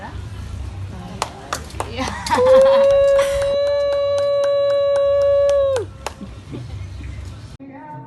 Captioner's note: applause, laughter and cheers of celebration